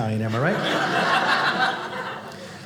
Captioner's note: audience laughing